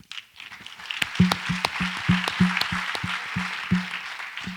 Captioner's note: audience applauds